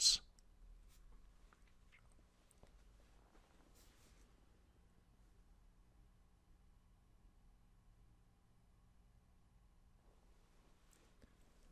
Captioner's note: pause